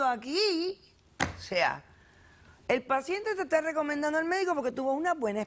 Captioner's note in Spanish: Palmada